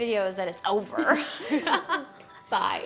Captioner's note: both laughing